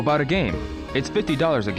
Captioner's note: game audio